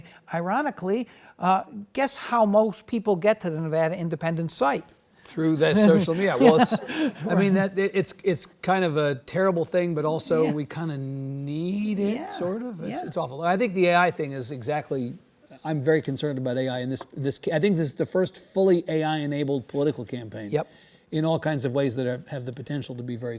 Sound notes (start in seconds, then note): 5.7 laughs; 5.8 audience laughs